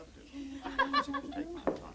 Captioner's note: laughter